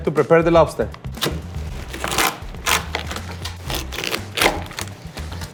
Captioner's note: lobster crunching